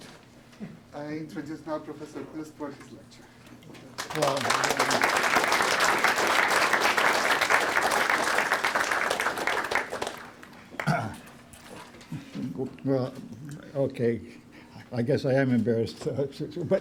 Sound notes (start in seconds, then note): 3.9 applause